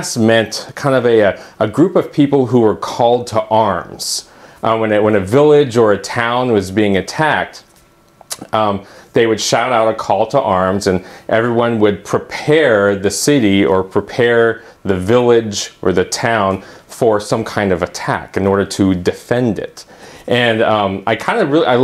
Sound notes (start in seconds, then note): 8.0 ummm